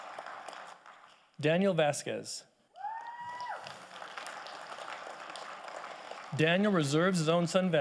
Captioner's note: audience applauding